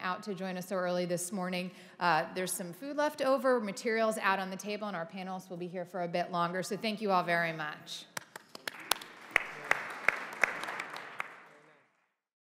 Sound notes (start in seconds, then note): 8.2 audience applauding